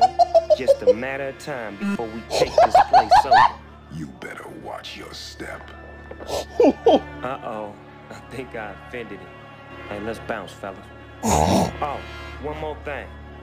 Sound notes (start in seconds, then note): 0.0 uncontrollable laughter and wheezing; 0.0 uncontrollable laugher and wheezing; 2.3 another uncontrollable laughter; 11.2 snorts